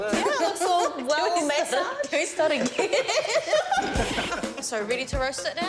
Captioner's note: laughter